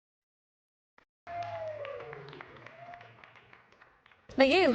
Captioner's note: audience applauds